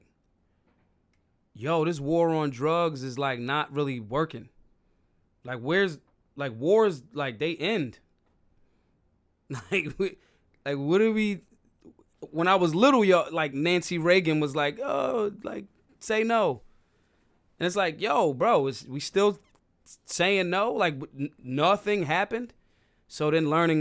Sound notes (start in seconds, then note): 9.5 laughs